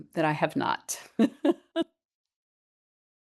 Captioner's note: laughs